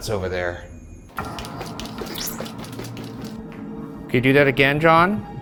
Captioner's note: deep ominous music; footsteps clicking